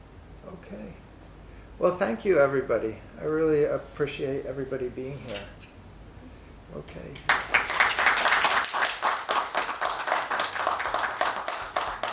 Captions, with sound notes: Okay. Well, thank you everybody. I really appreciate everybody being here. Okay. (applause)